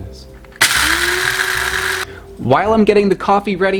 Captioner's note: grinder whirring